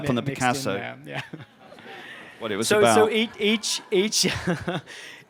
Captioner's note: laughter; laughs